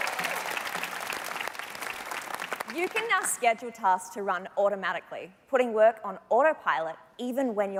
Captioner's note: cheers and Applause